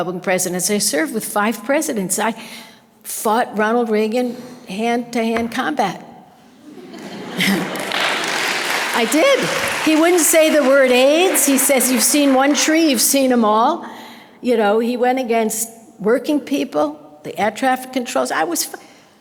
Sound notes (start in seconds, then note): 6.6 audience laughter